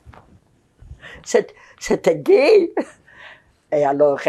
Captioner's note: laughing